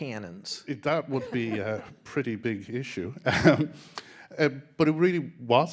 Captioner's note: laughing